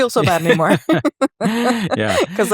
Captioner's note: both laugh